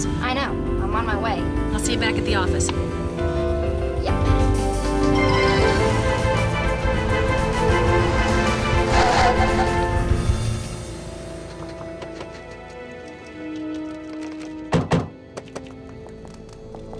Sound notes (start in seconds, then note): 5.1 dramatic music soars; 9.3 tires squealing; 14.7 doors slamming